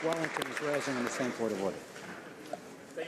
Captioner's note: some Applause